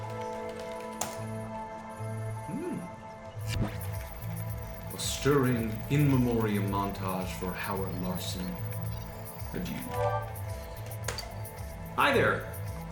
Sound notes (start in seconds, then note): 0.0 typing; 0.2 hard keystroke; 2.1 amused whine; 10.4 keystroke, beep